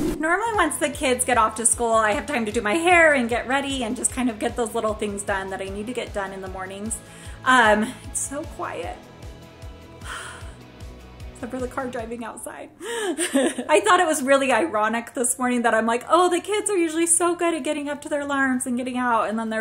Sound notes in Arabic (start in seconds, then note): 10.0 تتنهد; 13.1 ضحكات خافتة